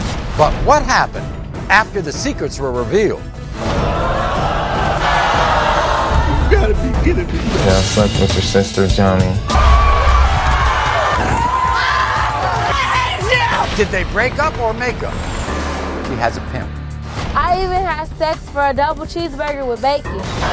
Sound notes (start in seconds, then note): 3.8 audience screaming; 9.4 audience screaming